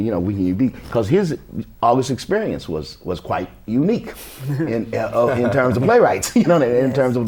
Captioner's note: laughter